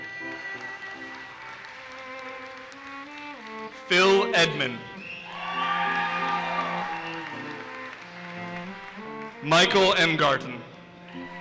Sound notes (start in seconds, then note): 0.0 audience applauses; 4.8 audience cheers and applauses